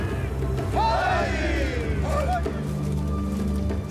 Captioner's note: chanting in foreign language